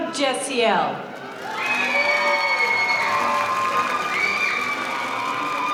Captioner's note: audience cheering